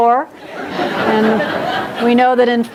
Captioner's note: audience laughs